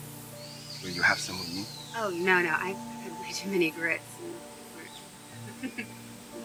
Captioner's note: laughs